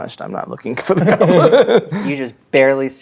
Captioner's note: laughs